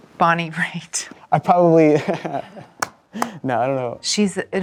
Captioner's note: both laughing